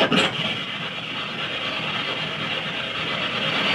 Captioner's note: device clangs